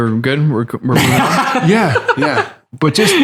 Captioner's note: laughter